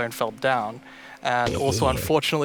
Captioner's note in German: zombie stöhnt